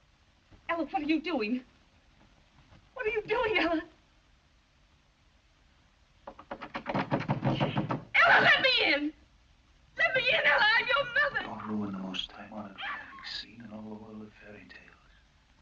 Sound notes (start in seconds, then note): 6.2 knocks